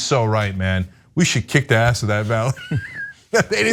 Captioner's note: laugh